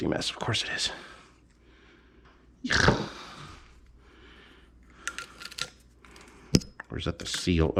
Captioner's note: audible disgust